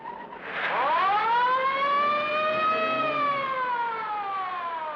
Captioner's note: sirens blaring